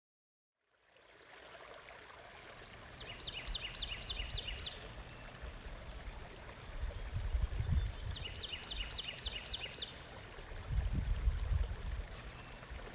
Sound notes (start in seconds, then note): 0.9 water splashing; 3.0 bird chipping; 4.7 water splashing; 7.6 bird chipping; 10.0 water splashing